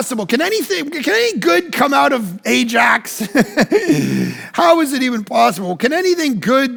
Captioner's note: laughs